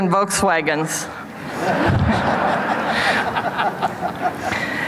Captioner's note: audience laughs